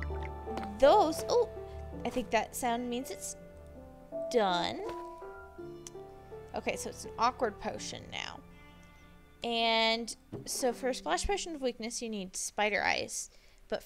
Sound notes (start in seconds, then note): 0.0 brewing stand gurgles